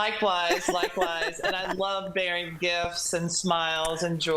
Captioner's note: laughter